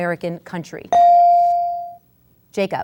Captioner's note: ding